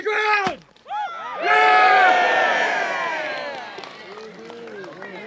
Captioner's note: cheering